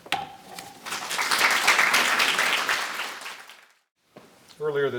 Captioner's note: clapping